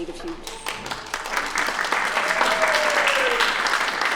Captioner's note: applause